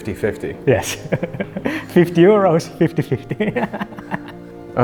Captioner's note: chuckles